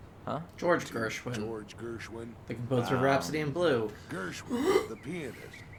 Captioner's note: gags